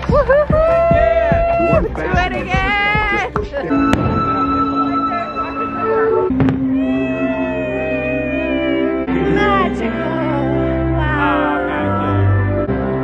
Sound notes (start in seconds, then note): 4.1 orchestral music; 6.8 cheers